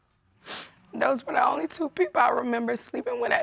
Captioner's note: voice breaking